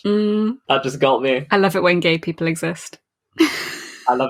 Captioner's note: laughs